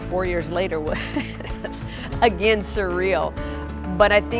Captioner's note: laughing